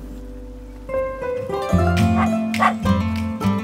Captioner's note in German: Hundebellen, Musik wird kraftvoller